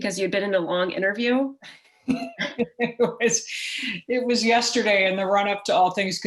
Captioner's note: chuckle